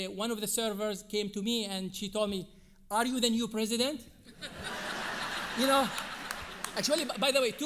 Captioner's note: audience Laughing